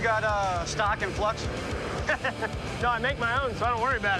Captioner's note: laughs